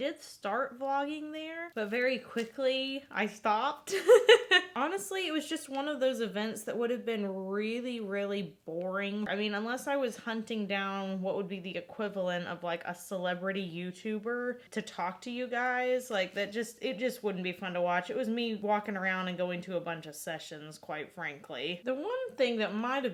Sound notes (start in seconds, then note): 3.9 laughing